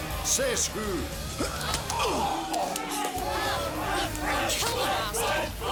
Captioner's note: grunting